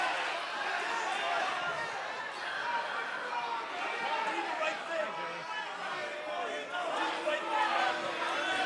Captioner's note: crowd chatter; crowd cheering